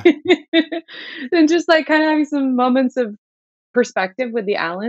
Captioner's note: laughter